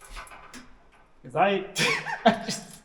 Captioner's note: laughs